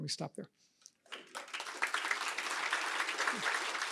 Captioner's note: applause